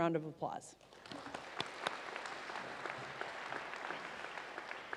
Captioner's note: audience applauds